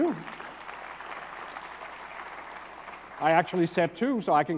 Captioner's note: applause